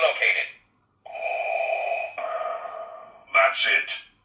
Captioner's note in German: Darth Vader breathing noise